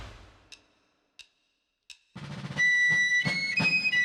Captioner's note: sticks clicking